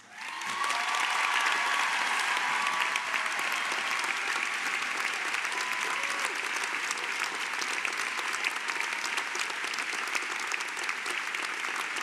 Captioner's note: Applaudissements